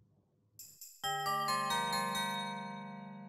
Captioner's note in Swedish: Julklockor ringer